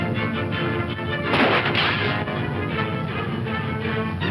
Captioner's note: gun firing; upbeat dramatic music